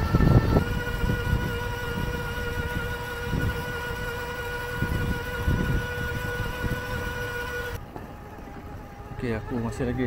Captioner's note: motor Sound